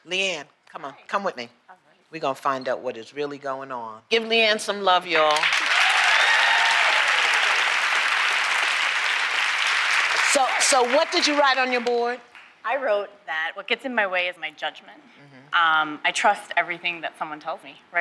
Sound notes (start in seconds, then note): 5.2 applause; 5.4 cheering